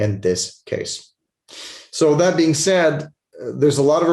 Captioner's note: sniffles